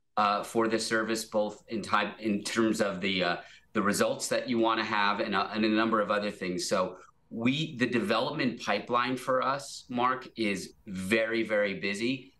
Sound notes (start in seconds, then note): none